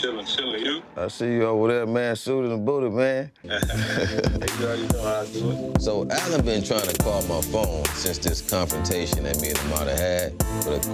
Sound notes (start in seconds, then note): 3.5 both chuckling